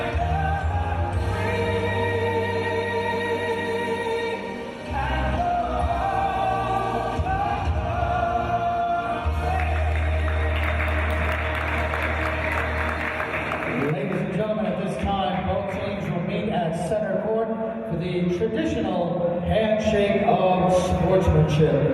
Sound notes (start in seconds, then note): 9.5 applause